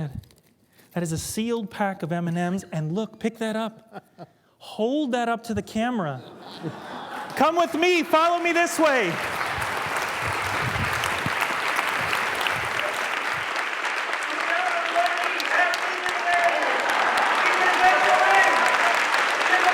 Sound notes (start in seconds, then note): 7.9 laughter; 11.3 applause